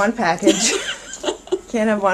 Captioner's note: laughs